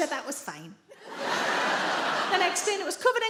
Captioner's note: audience laughs